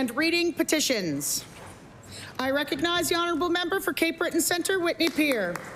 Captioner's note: some Applause